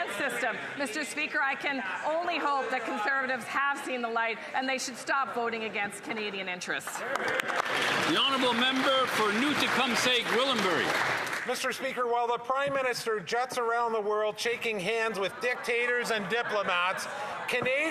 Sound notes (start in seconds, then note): 11.4 applause